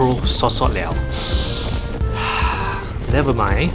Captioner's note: deep breath